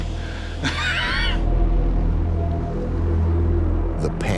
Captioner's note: chuckles